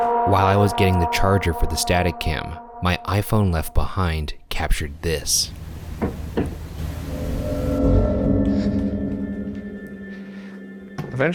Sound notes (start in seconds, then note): 5.9 object bumping; 8.0 suspenseful music